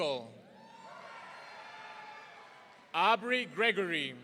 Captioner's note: audience cheering